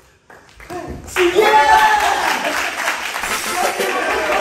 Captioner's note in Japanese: 拍手